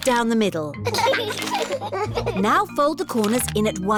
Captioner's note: both giggling